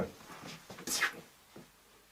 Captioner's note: makes a blaster sound with his mouth